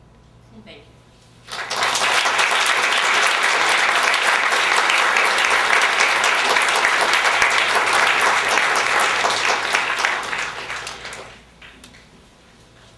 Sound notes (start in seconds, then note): 1.4 applause